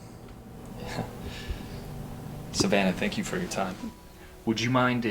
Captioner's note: laughs